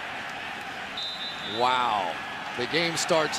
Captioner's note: whistle blows